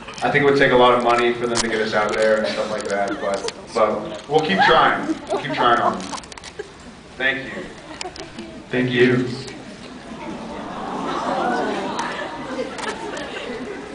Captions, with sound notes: I think it would take a lot of money for them to get us out there and stuff like that, but... but we’ll keep trying. We’ll keep trying on them. Thank you. Thank you. Thank you. Thank you. [scattered awwws]